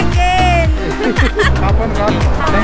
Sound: laugh

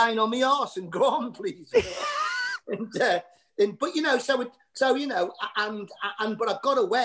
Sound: laughter

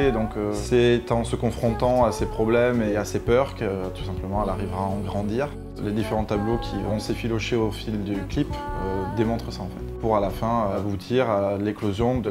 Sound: speaking in french

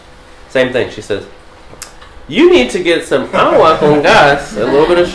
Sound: non-english

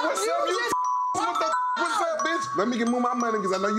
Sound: beep

